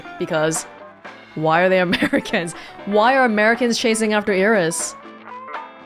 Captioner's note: chuckles